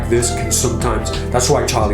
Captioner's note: Charlie squeaking